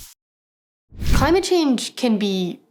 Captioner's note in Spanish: Whoosh efecto de sonido